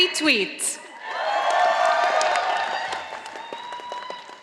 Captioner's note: audience applauding